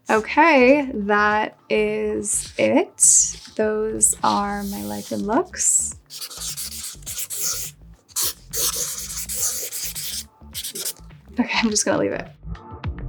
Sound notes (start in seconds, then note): 6.4 marker scratching; 12.8 gentle music